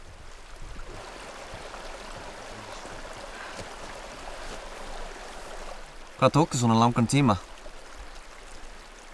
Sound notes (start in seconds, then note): 6.1 in Icelandic